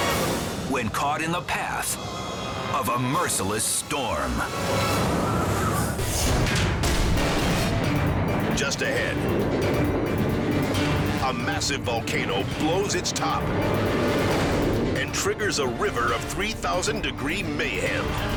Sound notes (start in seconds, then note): 6.1 metal thuds